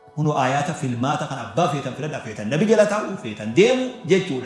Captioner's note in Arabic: ضحك